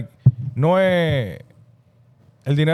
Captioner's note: speaking In Foreign Language